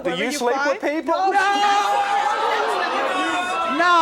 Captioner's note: audience jeering